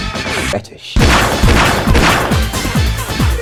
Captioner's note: gunshots